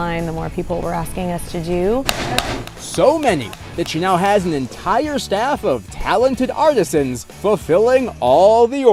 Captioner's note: hammering